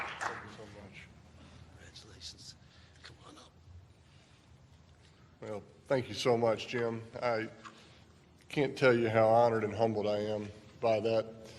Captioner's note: applause